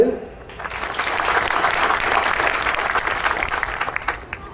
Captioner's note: audience applauding